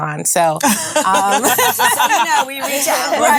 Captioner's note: ladies laughing